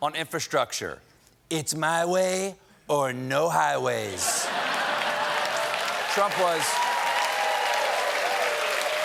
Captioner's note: cheers and applause; laughter